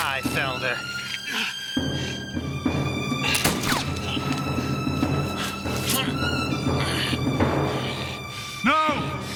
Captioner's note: gunfire